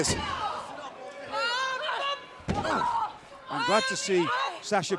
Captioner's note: wrestlers grunting